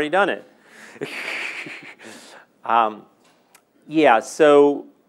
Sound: laughing

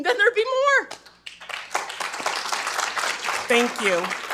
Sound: attendees applauding

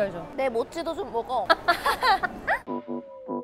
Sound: laughing

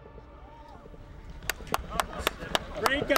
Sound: applause

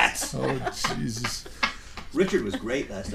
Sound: laughing; voiceover

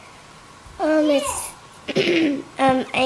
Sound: clears throat

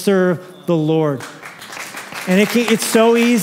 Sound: applause

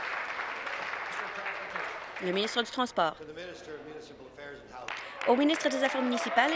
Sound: applause

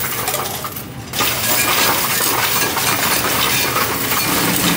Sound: coins rattling

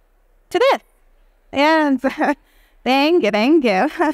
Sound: chuckling

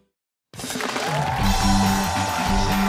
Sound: cheers and applause

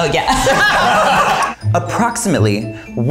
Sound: all laughing

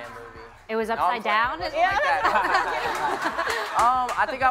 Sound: laughs

